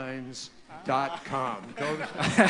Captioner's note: laughter